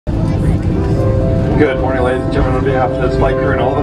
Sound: plane tannoy

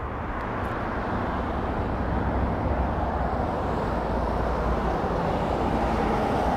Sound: traffic humming by in the background

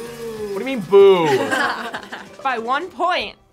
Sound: both laugh

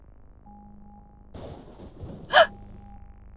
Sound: thunder strikes

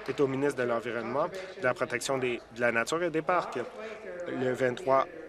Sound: applause

